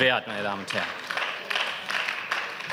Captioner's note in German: Beifall